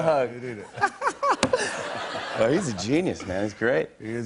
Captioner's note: laughs